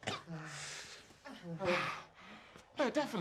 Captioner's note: coughing